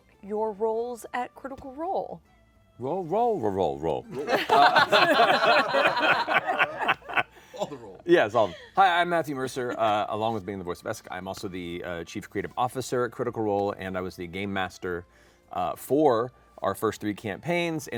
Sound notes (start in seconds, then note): 4.1 laughter